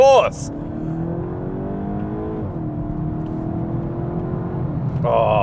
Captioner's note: car engine accelerating